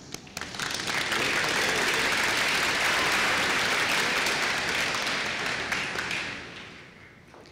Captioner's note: applause